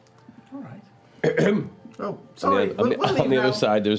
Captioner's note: coughing